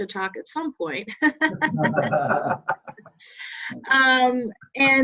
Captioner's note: laughter